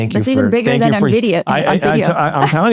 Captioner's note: laughs